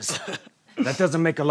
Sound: laughs

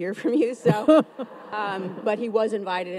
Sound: audience laughs

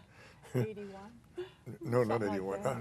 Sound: laughs

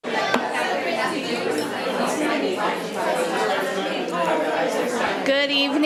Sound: crowd chattering indistinctly

